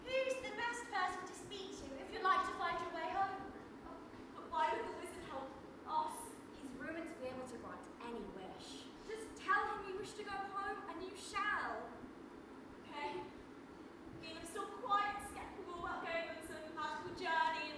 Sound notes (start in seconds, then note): none